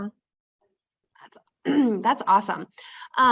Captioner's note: clears throat